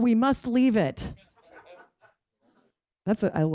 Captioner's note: laughter